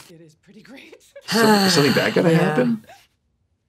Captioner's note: gasps